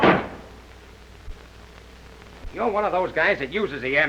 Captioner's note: window blind slamming shut